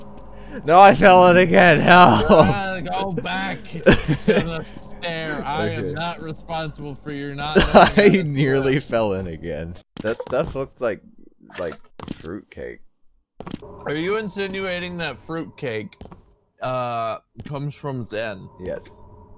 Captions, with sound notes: No, I fell in it again, help! - You gotta go back to the stair! (laughter) I am not responsible for your not knowing how to.... - I nearly fell in again. That stuff looked like... like fruitcake. - Are you insinuating that fruitcake.... ...uh, comes from Xen? - Yes.